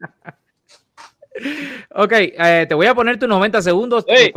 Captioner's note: laughs